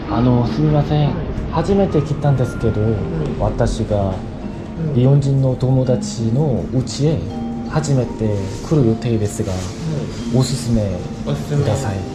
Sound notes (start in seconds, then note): 4.9 explaining in broken Japanese